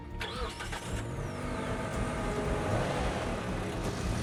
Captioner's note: engine revs